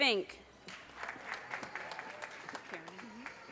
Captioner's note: audience cheers and applause